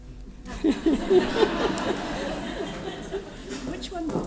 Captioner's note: laughter